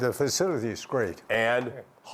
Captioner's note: speaking Mandarin